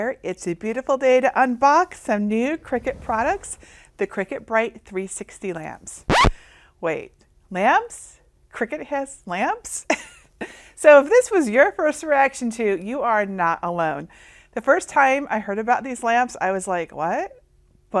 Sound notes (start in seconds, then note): 6.1 record scratching; 9.9 laughs